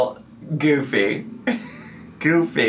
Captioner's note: laughs